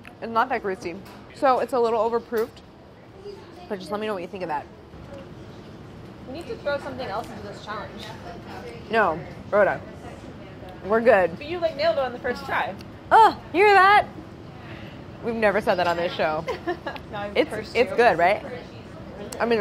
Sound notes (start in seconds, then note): 16.4 chuckles